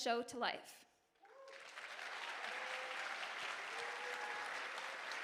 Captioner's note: audience applauding